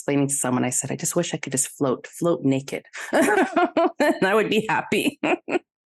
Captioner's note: both ladies laugh